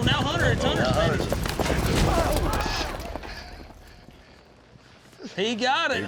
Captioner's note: thud